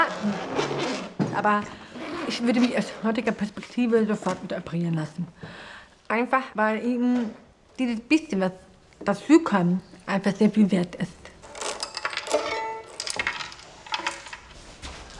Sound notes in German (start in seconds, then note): none